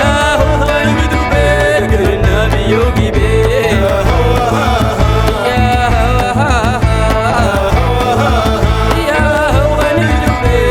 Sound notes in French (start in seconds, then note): 2.0 chant